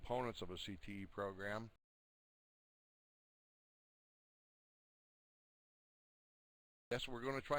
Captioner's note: audio drops